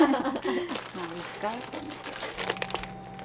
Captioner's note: laughter